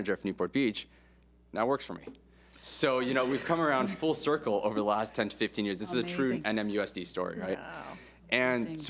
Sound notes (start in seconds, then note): 3.2 board laughs